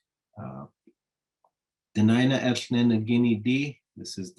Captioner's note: speaking in Native language